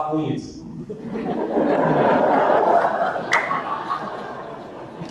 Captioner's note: audience laughter